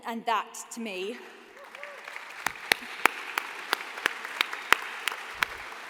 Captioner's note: applause